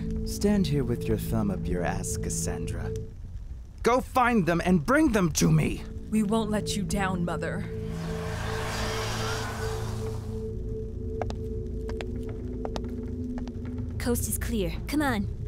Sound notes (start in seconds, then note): 7.6 fire crackling; 8.5 slow dramatic music